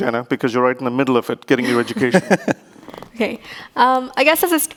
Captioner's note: laughing